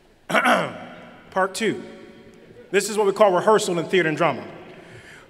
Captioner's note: laughter